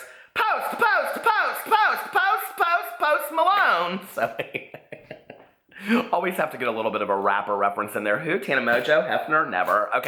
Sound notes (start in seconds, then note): 3.9 laughs